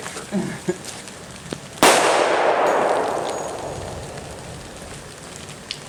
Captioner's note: gunshots